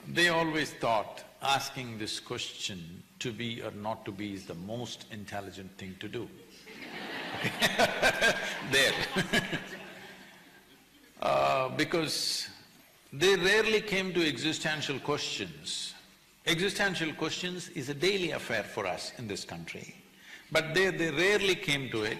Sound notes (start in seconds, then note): 6.6 laughter